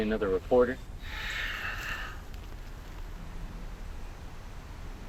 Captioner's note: Ramon sighing